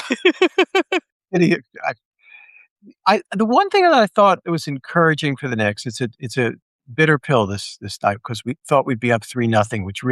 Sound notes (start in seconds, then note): 0.0 all laughing; 1.4 audio cutting out